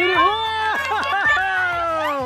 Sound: cheering

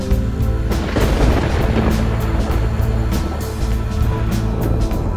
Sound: thunder rolls

